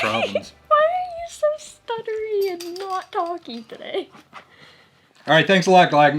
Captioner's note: laughs